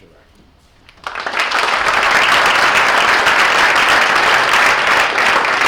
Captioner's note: audience applauds